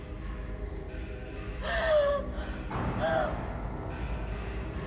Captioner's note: Caroline gasping sharply; soft tense orchestral music